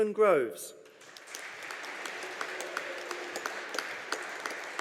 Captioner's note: audience applauding